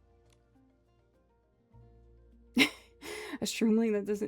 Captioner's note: laughs